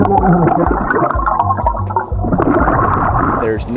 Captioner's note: oxygen bubbling in water